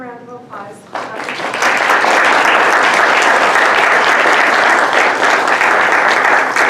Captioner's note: applause